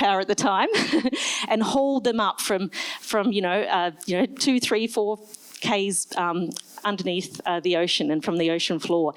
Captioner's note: laughs